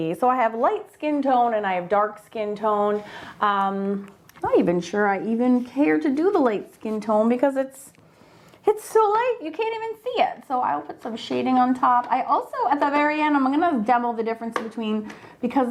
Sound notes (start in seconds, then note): none